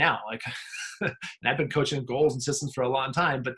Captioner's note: laughing